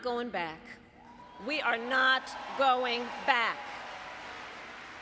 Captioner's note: applause